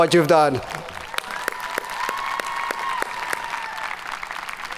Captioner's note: audience cheering